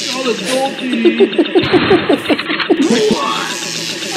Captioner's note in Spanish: risitas